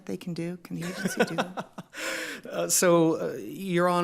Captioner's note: laughs